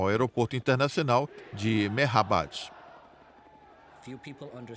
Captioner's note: chanting in a foreign language